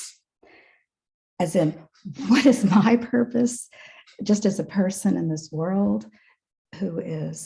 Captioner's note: chuckles